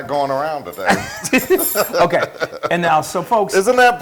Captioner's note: laugh